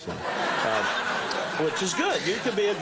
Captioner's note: audience laughter